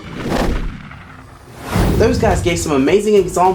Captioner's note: air whooshes